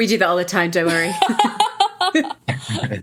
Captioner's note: laughing